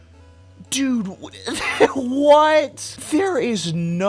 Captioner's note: sputtering, then laughing